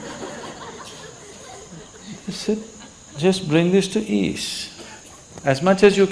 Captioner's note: laughter